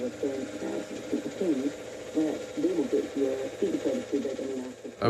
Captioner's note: tv plays softly in background